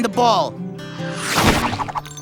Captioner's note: thump